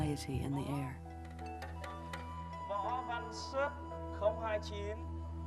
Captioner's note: calling names in foreign language